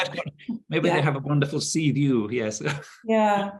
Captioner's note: chuckling